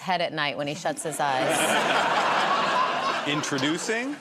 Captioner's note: laughter